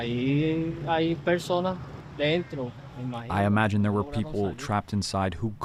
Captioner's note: through translator